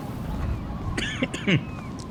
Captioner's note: coughs